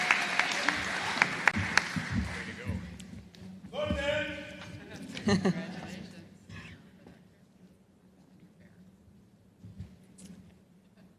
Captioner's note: applause